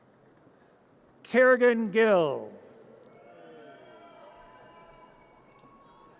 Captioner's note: audience cheers; audience cheers